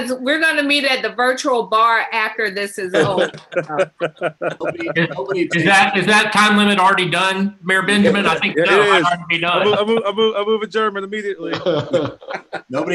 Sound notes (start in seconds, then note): 2.6 laughs